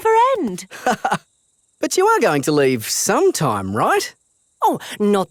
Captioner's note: laughs